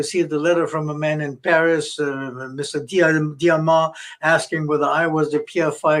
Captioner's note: speaking french